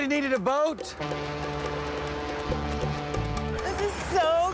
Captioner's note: boat horn honking